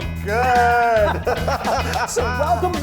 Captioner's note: laughter